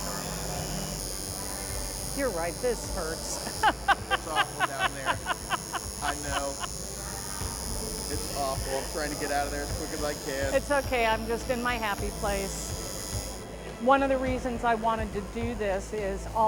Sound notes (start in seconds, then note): 0.9 tattoo gun buzzing; 3.4 laughs